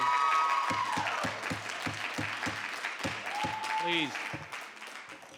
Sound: audience cheering; gavel banging

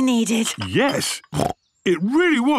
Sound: snorts

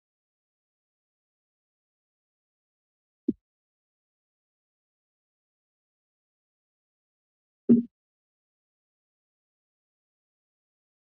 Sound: silence

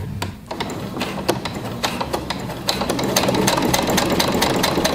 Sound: machine whirring

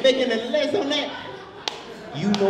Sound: audience laughs

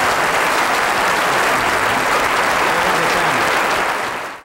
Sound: audience applauding drowns out speaking

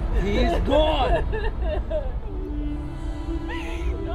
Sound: crying

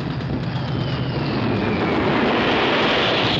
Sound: dive bomber roars overhead

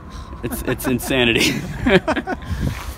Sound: laughs

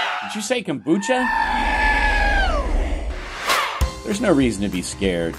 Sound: screaming

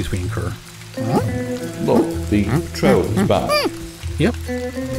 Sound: ape noises

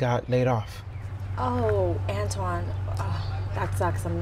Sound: sighs

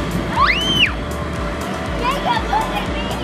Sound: screams

